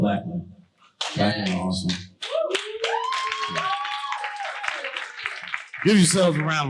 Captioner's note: audience cheering